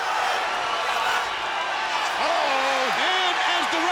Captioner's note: audience cheers